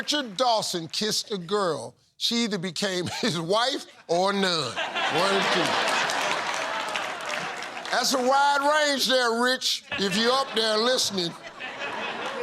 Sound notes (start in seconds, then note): 4.4 laughter; 4.5 chuckles